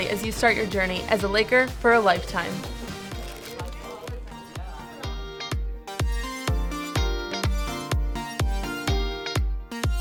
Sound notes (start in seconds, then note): 3.5 people conversing; 3.5 upbeat music